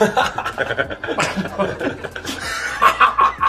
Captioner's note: all laughing